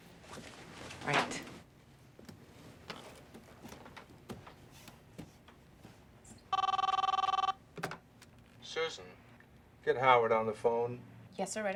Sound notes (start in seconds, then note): 6.4 phone rings